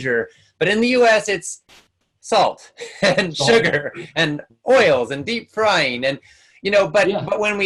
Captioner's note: laughs